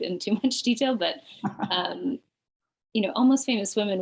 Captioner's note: chuckles